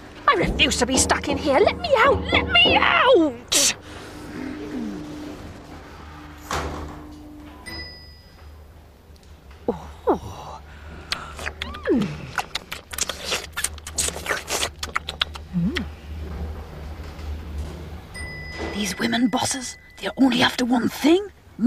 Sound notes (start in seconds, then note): 7.4 ding; 12.0 slurping and eating noises; 18.1 ding